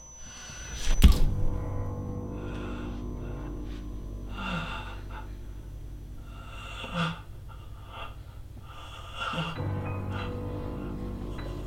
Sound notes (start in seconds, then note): 0.9 pulpy splash; 4.6 heavy breathing; 9.6 score intensifies